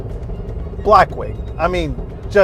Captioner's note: engine revving